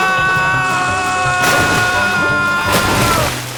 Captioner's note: milk splashes